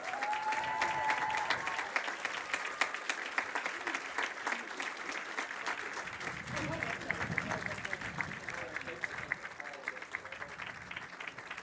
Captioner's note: cheers and applause